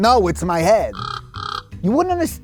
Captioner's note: squawks